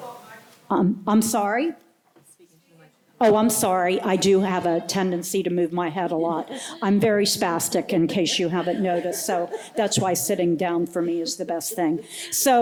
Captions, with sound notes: I'm sorry. I do have a tendency to move my head a lot. [LAUGHTER] I'm very spastic in case you haven't noticed so. That's why sitting down for me is the best thing.